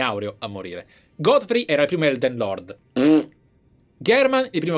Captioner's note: blows raspberry